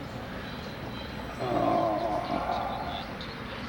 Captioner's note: sighs